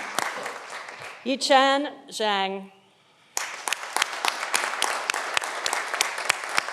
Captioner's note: audience applauding